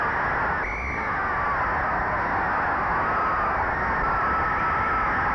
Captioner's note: referee whistling